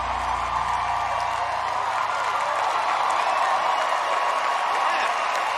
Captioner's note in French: applause